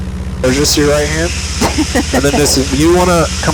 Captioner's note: laughs